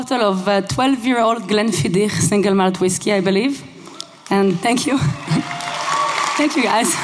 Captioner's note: applause